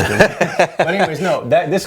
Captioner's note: laughs